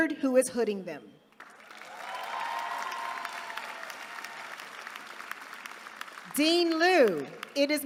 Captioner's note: applause